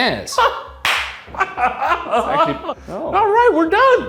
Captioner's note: clapping and laughing